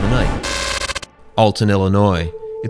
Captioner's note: static